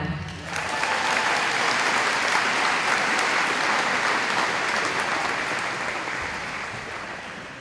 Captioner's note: applause